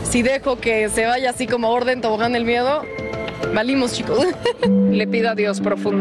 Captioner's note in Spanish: risas